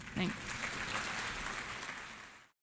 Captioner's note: applause